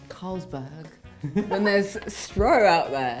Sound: laughing

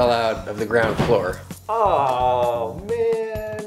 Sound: sighs

